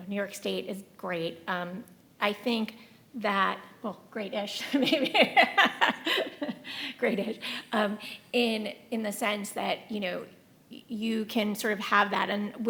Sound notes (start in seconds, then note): 4.6 laughing